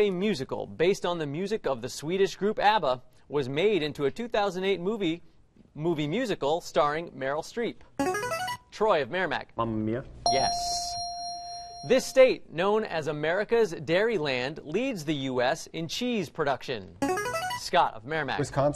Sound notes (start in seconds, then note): 8.0 buzzer plays; 10.2 ding; 17.0 buzzer plays